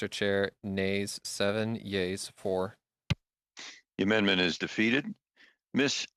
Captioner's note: speaking French